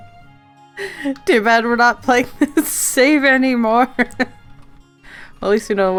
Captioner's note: laughs